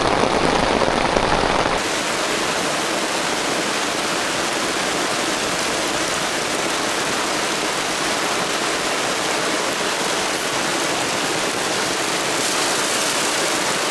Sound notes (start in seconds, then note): 5.8 rain